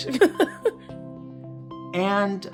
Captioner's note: laughing loudly